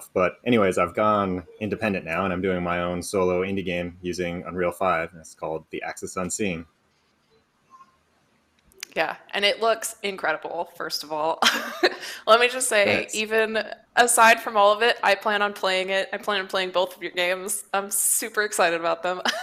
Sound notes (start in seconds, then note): 12.8 laughs